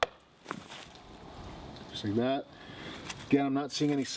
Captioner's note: tapping on tree